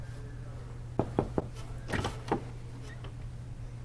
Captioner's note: knock on door